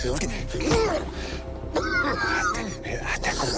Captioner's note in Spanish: Quejido